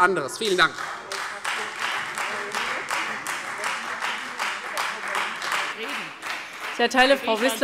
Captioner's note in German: Beifall Freie Demokraten